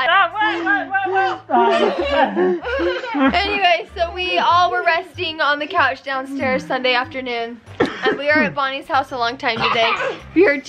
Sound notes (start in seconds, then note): 0.4 children laughing